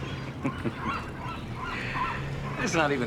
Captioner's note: chuckling